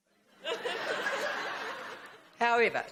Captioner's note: audience laughs